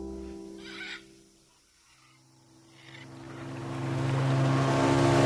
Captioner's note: birds squawking; boat rumbling